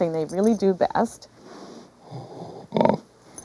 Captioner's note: pig snorting